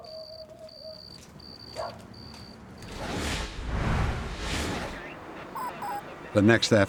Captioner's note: dog barking in the distance